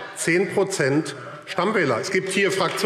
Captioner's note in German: Beifall AfD